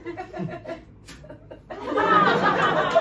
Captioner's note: thwp!